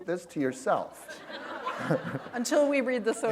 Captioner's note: laughter